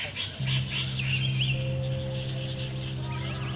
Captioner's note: birds chirping